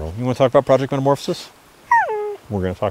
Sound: dog whines

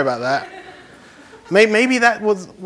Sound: laughter

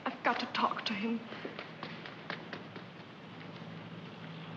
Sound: footsteps running

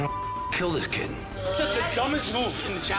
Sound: beep

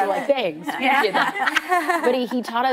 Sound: laughing

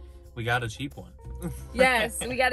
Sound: laughs

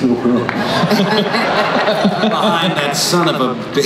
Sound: laughter

